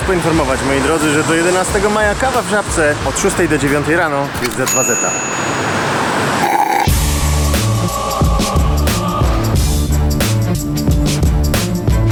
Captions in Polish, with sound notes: Spieszę was poinformować, moi drodzy, że do 11 maja kawa w Żabce od 6:00 do 9:00 rano za dwa zeta. (ślurp)